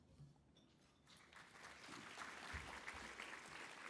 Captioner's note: applause